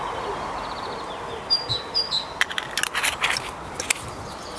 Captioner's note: loud birdsong